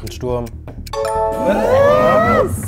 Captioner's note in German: Erstaunte Rufe